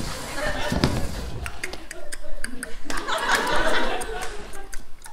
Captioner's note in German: Geräusche von Pferdehufen